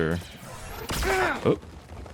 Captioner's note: gunshots